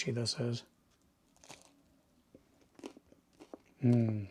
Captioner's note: bread crunching; sighs happily